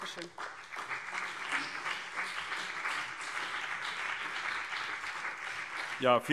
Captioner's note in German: Beifall CDU und BÜNDNIS 90/DIE GRÜNEN